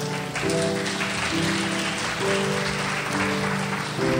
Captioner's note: crowd applauds